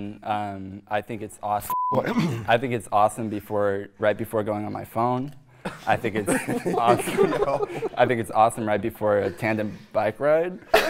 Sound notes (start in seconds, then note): 1.6 beeping; 6.2 everyone laughs